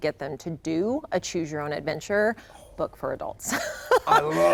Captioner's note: laughs